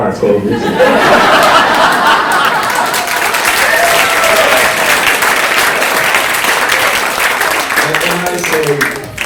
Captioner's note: audience laughs